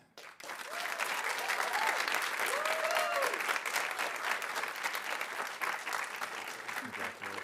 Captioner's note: audience applauding; audience cheering